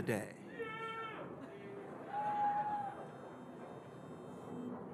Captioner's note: audience cheering